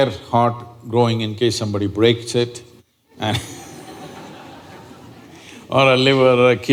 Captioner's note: laughter